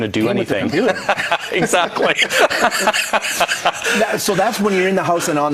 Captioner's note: laughs